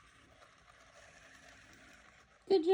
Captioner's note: gear noises